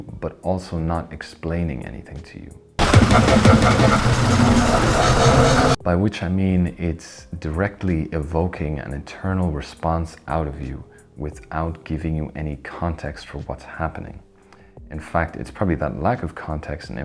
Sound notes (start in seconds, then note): 2.8 loud sound effect